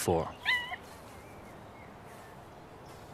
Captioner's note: cubs yelp